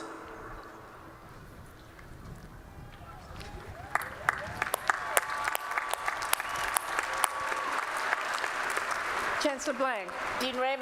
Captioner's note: applause